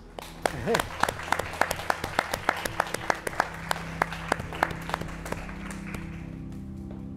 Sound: chuckle; applause

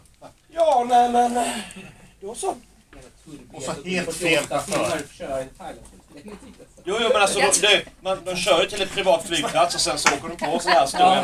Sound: small talk in Swedish

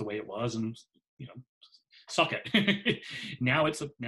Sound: laughs

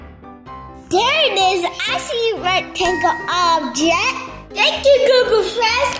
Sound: offscreen Voice

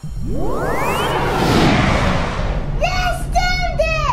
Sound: electric sound

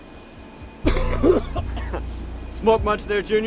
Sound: Holsten coughing

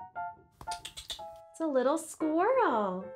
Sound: clicking

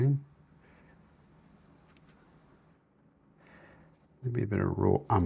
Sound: silence

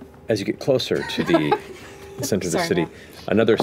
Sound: laughter

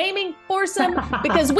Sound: laugh

